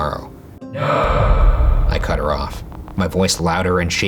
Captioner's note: echoing